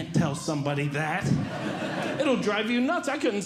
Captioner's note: audience Laughing